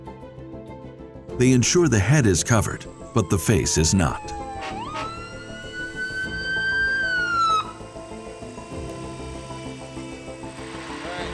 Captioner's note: sirens